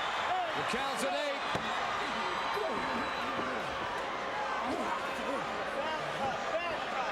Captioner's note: crowd chattering